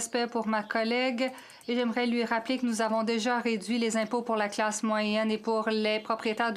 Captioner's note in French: voix de l'interprète